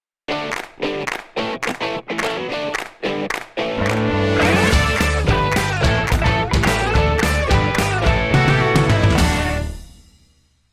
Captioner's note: claps